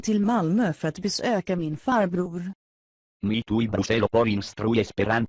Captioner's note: speaking in foreign language